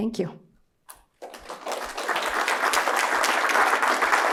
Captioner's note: applause